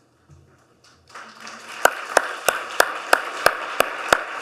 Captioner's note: clapping